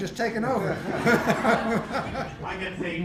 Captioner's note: laughing